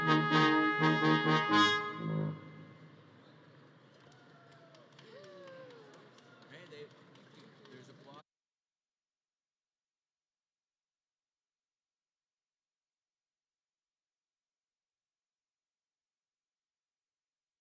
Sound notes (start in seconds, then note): 3.1 audience claps and cheers